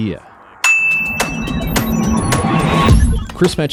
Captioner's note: bell dings; energetic music